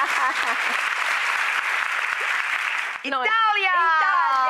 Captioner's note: audience applauding; Camilla laughing